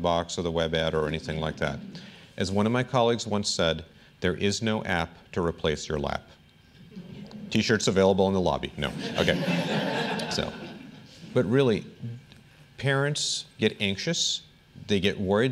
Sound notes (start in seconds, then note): 8.9 laughter